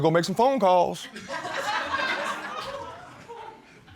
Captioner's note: laughter